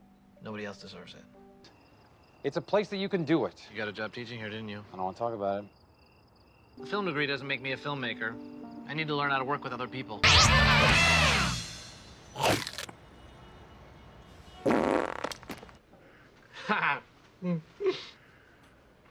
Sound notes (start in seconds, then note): 12.3 big chompp noise; 14.6 big fartt noise